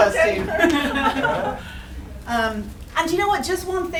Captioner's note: laughing